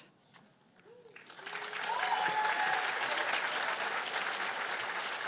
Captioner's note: cheers and applause